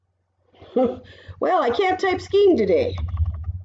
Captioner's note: laughs